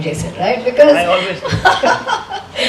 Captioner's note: laughs